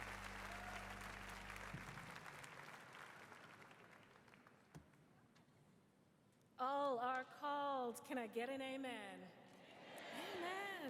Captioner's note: applause